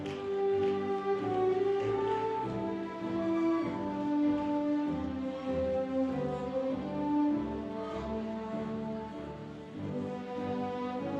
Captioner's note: cheers and applause